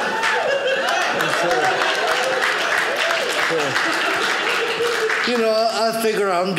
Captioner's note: audience laughing; audience cheering